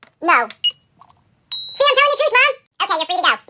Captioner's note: ding